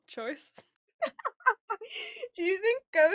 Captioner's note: laughs